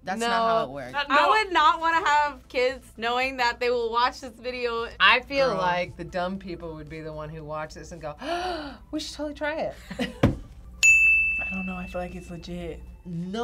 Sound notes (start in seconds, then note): 8.2 gasps; 10.2 laughs; 10.8 bell rings